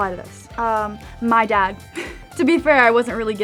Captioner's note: chuckles